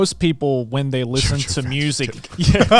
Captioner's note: all laughing; whispering